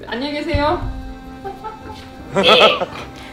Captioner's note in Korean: 웃음